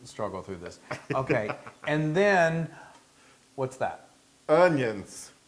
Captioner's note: laugh